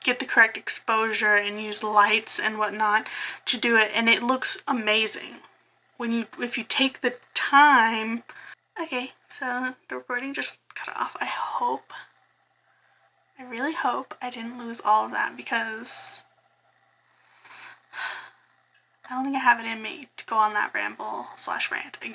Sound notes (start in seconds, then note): 16.4 sigh